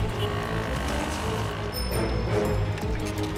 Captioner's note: bicycle bell rings